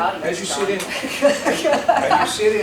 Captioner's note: laughs